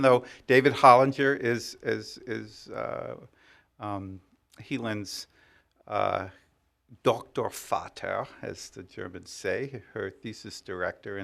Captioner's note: speaking german